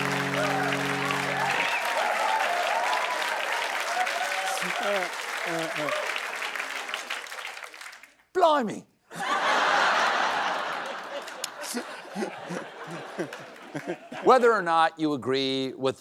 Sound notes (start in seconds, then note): 0.0 applause; 5.8 british accent; 12.9 laughter